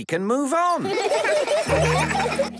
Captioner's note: laughter